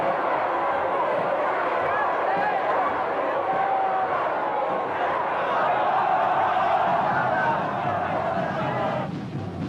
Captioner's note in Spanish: Gritos